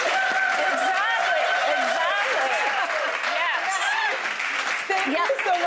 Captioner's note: audience applauding